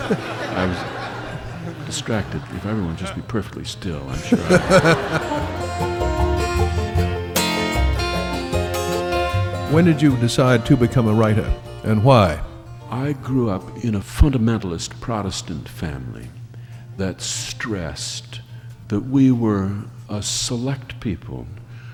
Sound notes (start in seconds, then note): 0.0 laughter; 5.6 laughing